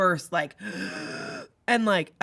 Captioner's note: gasps